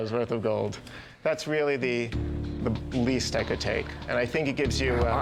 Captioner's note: none